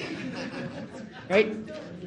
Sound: audience laughing

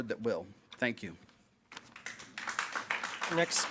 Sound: applause

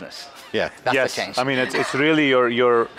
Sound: laughs

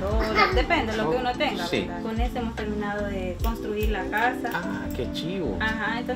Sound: speaking Spanish; baby babbling; speaking Spanish; client speaking Spanish

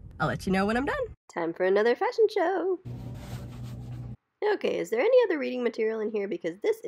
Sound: paper rustling

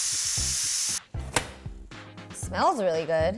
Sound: pot lid clicks

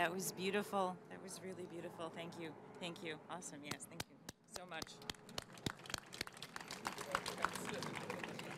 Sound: applause

